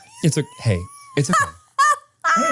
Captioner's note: laughs